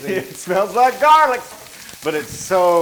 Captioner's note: laugh